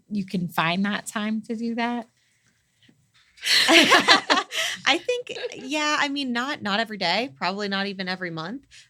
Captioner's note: laugh